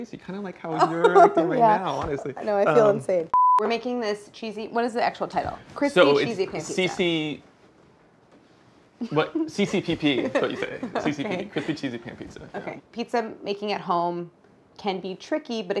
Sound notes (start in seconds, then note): 3.3 beep